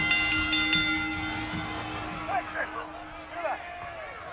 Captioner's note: bell ringing; crowd noise